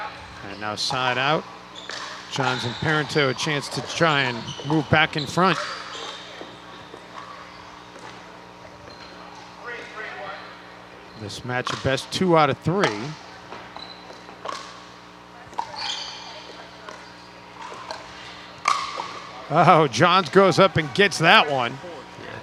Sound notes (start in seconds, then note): 6.0 people chattering; 12.8 ball bouncing